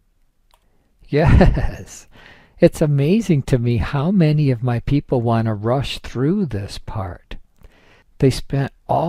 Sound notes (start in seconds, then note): 1.2 laughs